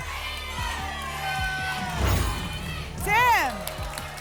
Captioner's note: audience chanting "jaiden!"